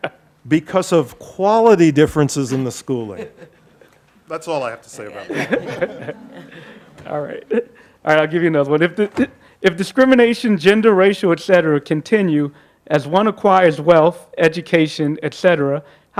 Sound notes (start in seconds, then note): 3.7 laughing; 5.0 group laughing